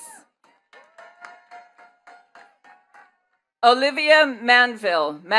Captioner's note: attendees cheering and clapping